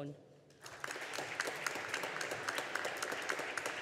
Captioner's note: audience applauding